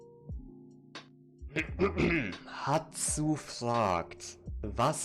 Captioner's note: clears throat